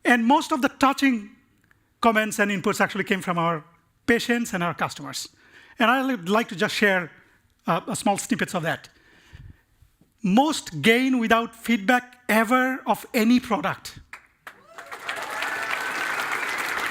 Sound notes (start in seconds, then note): 14.4 cheering and applause